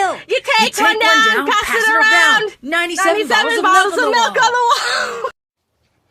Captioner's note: continues singing; singing devolves into giggles